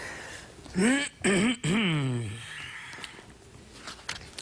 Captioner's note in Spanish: Carraspea